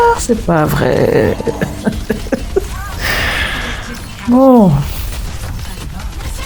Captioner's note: laughs